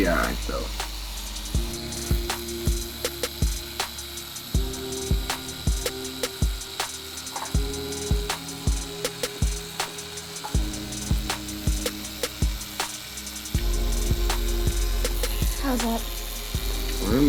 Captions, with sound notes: - We'll be, we'll be all right, though. (chill hip-hop music) (tattoo gun running) - How's that?